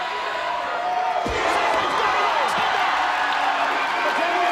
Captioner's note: audience cheering